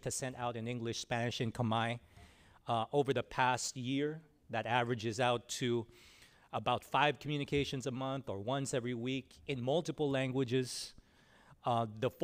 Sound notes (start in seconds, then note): none